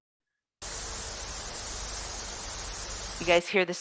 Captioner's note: static